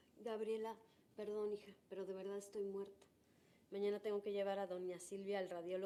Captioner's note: speaking in foreign language